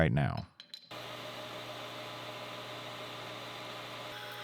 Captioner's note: machine whirring